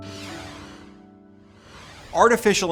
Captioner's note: swoosh effect